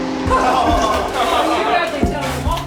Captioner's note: laughter, chatter